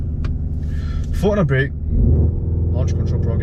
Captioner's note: engine revs build